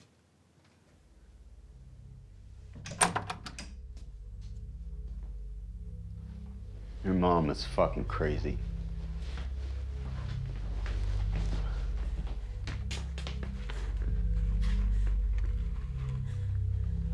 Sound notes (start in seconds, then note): none